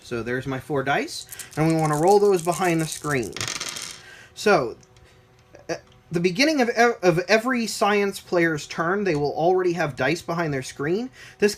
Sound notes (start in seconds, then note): 3.5 dice rolling